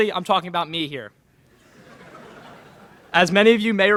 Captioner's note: laughter in crowd